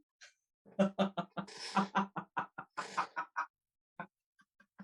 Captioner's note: laughs